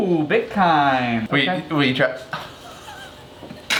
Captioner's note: laughing